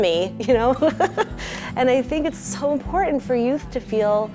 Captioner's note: laughs